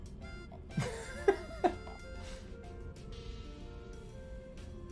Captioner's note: bursts out laughing